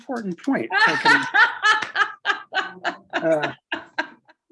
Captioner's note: laughs